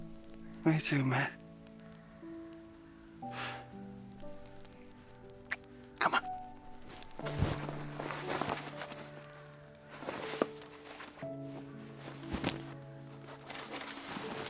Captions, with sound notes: me too, mate. (gentle orchestral music) Come on. (bag rustling) (gentle orchestral music continues)